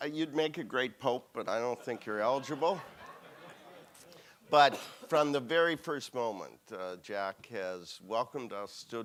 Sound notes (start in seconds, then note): 1.7 audience laughing